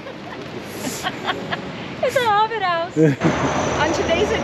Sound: laughing

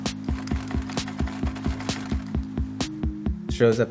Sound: air clacks

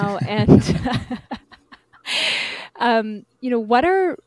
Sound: laughs

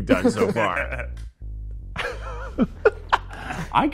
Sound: laughing

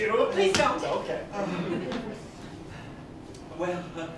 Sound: laughter

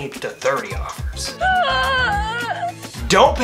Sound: lady whimpers

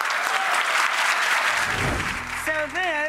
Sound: audience clapping

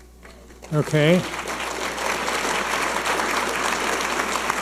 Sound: audience applauding

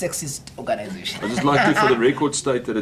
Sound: laughter

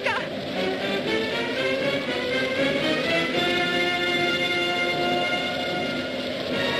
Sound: dramatic music; wind howling

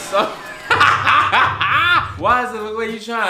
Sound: laughs

